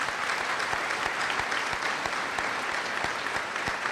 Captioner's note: applause